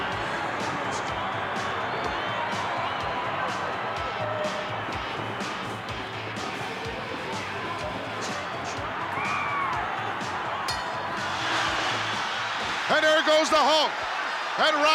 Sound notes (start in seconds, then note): 10.6 bell rings